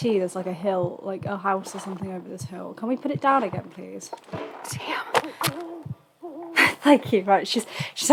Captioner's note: laughs